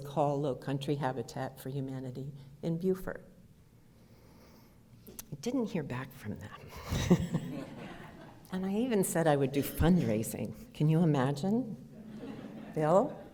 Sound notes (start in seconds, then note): 6.7 laughter; 12.0 audience laughter